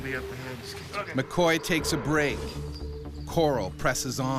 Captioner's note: voiceover